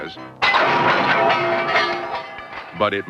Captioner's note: rattling crash!